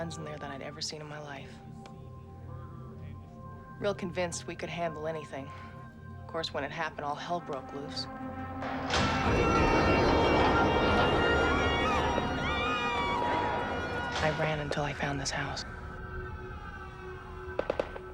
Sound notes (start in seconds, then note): 8.7 alarm; 11.4 screaming